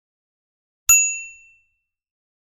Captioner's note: bell dings